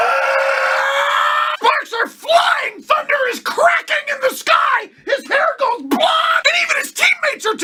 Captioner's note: Dragon ball Z scream